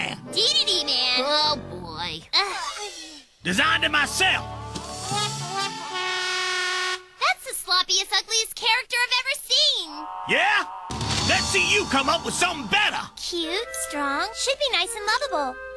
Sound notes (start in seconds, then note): 2.2 groaning